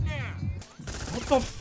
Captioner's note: gunshots